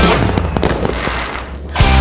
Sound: fireworks

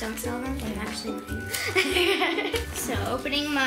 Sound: laughs

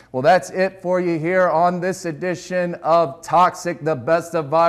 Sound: none

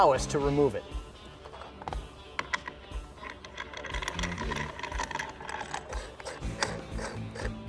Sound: rock music; bolt rattling

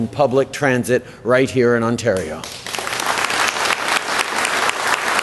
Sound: applause

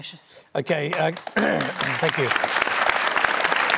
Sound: applause

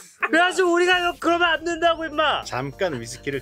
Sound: laughs; speaking in Korean

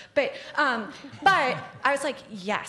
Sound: laughter

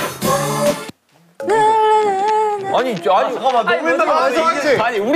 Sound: frustrated

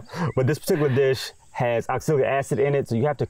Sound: laughs

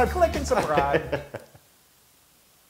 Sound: laugh

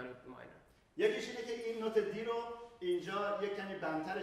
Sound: speaking in farsi

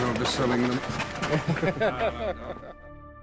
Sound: jackson laughs

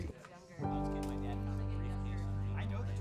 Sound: group chatting

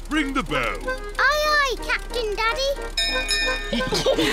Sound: bell rings; all laugh

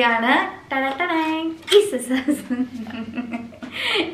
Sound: giggles

